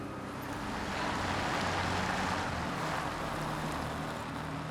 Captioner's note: car approaching